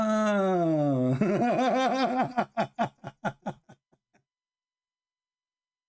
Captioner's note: Ketawa